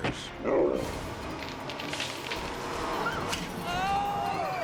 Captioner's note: bear growls